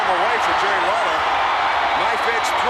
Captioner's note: audience cheers